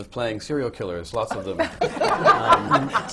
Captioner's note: laughter